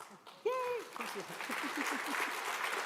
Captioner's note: applause